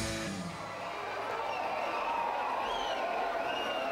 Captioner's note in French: cris d'enthousiasme